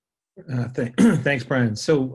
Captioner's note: clears throat